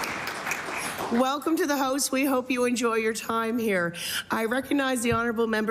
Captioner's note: applause